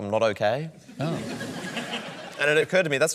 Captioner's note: laughter